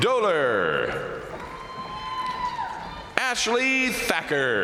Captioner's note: crowd cheering; crowd applauding